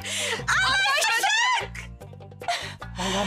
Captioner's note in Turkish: Hep bir ağızdan